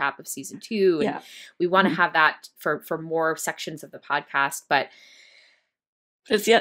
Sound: sighs

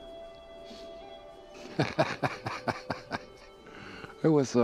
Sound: laughing

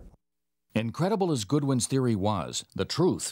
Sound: voiceover

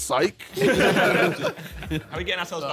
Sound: all laughing

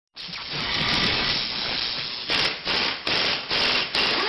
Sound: drilling sounds

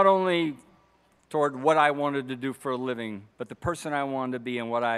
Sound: none

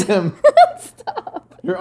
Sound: laughs

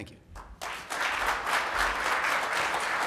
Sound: applause

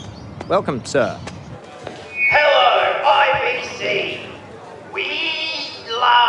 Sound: loudspeaker

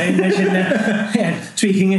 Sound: laughing

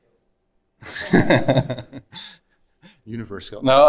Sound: laughing

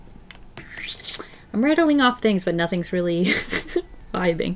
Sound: laughs

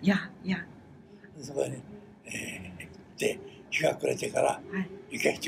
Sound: foreign language

